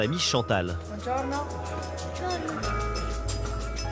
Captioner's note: in Italian